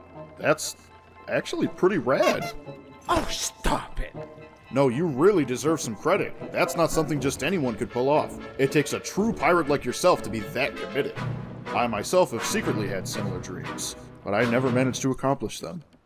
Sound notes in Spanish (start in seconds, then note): none